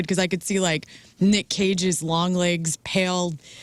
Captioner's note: none